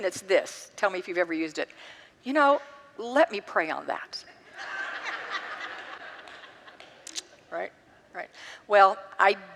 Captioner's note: congregants laugh